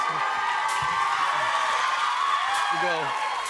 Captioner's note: cheers and applause